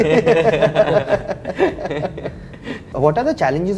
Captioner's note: laughs